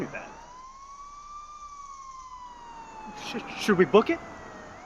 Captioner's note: siren wailing